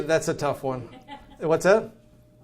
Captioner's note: man speaks softly